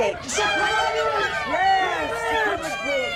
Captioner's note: crowd shouts